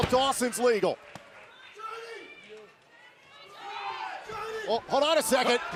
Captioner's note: crowd cheering